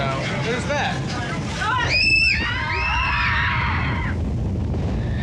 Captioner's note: riders screaming